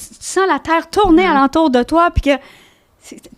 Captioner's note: in french